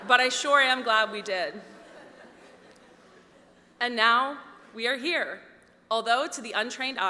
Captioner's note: laughter